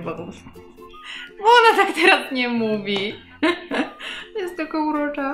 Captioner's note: laugh; laughter